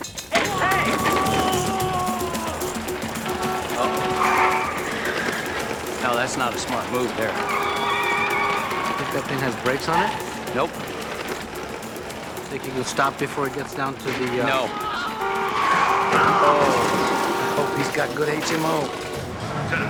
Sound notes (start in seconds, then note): 3.7 horn beeping; 9.6 tires squealing, horns honking; 14.0 man yelling; 17.7 tires squealing, cars crashing